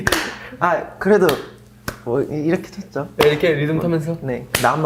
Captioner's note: clapping with a rhythm